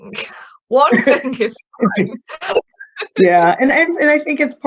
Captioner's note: laughing